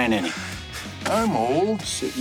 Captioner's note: chuckles